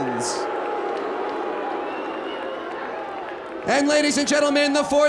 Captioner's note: audience jeers